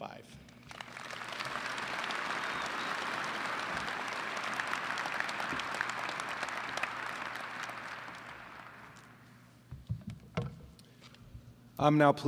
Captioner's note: applause